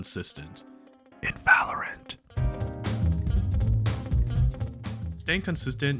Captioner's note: whispers